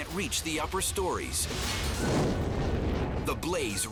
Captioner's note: fire roaring